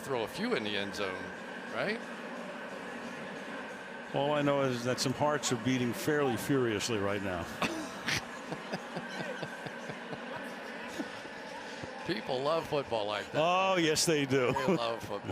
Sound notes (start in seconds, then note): 7.6 laughter